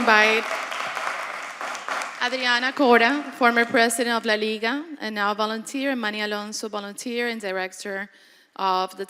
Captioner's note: applause